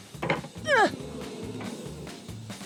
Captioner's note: groans